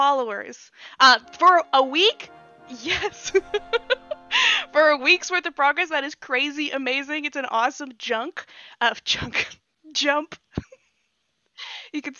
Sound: laughs

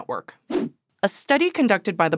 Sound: air whooshes

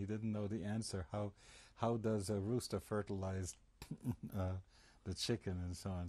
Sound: laughs

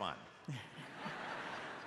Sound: laughter

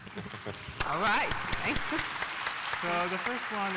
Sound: applause

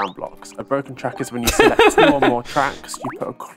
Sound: laughter

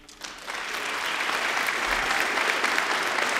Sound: applause

